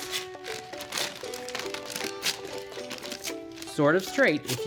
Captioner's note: paper tearing